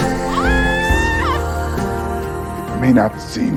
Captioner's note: screams